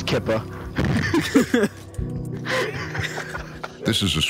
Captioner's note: group laughing